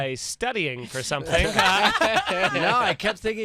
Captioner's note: laughter